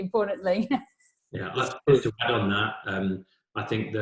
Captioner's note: voice muffled